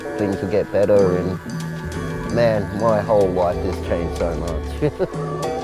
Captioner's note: laughing